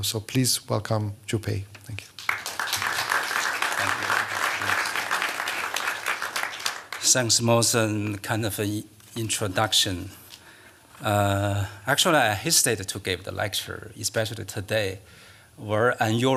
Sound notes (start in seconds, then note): 2.1 applause